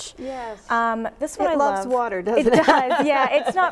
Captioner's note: chuckles